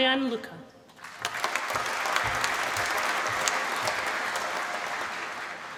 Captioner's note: applause